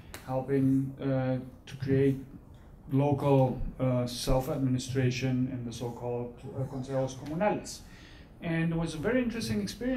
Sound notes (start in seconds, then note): 6.1 speaking foreign language